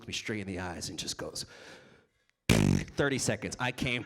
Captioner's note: trills tongue